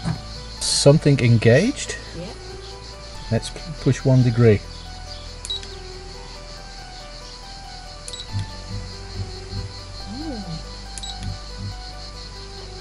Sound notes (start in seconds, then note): 8.0 soft mechanical sound; 10.9 soft mechanical sound